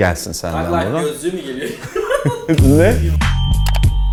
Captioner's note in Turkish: gülüşmeler